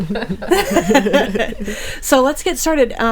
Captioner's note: people laughing